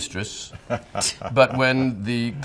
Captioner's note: Selena and Steve laughing